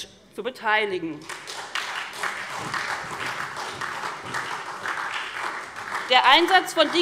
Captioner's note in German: Beifall SPD